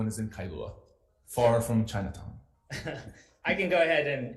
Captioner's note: laughing